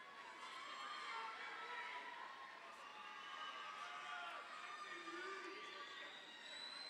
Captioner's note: overlapping chattering; audience cheers